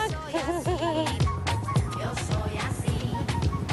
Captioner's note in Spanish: Risas